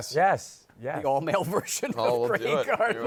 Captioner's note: laughing